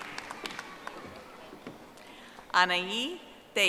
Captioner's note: audience applauding